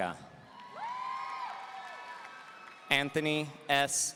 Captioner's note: audience cheering